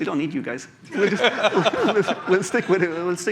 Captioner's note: laughter